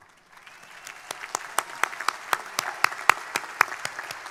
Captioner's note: crowd applauding